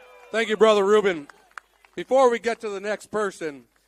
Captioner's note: applause